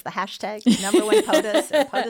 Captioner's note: laughs